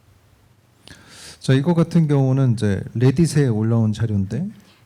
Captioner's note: speaking korean